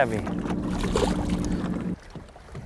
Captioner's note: splash